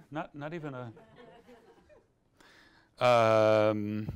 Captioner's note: audience laughs